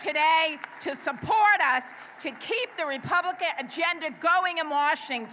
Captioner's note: applause